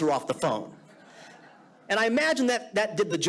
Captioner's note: audience laughing